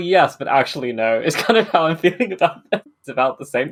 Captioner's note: laughing